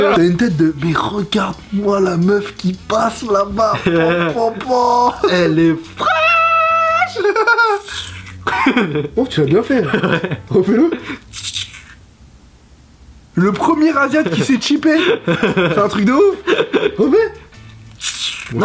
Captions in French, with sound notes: T'as une tête de.. "mais regarde-moi la meuf qui passe là-baaas" "popopoooo" "Elle est fraaaaaaîche" (tchip) Oh tu l'as bien fait ! (rire) ouais ! Refais-le ! (tchip) Le premier asiat qui sait tchiper ! C'est un truc de ouf ! Refais ! (tchip)